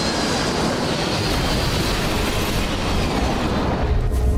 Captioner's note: plane crashes